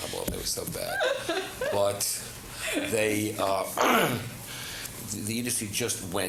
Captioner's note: laughter